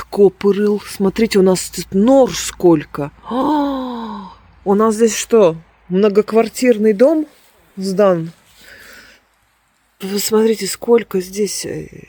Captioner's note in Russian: тяжело вздыхает